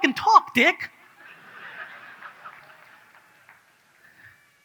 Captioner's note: audience laughs